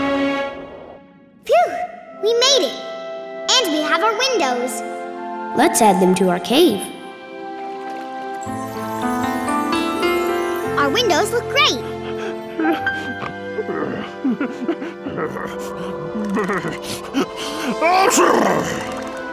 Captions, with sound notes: Phew, we made it! And we have our windows! Let's add them to our cave. Our windows look great! [shivering] [sneezing]